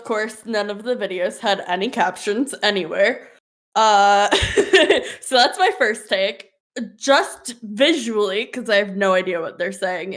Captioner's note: laughs